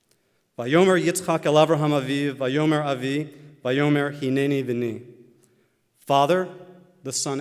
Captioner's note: Hebrew